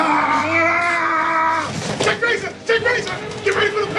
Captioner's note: screaming!